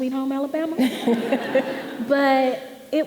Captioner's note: audience laughing